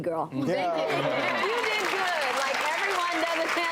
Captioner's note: audience applauds